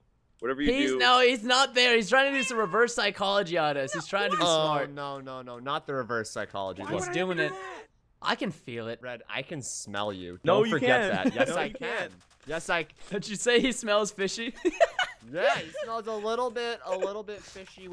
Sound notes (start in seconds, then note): 10.9 chuckles; 14.5 laughs